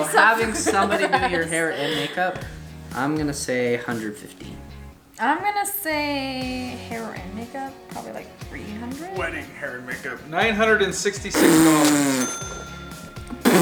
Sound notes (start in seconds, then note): 8.9 male Voice